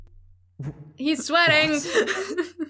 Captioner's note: game audio